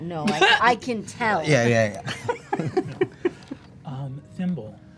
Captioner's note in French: rires